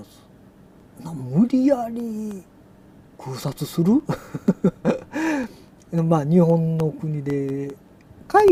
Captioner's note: laughs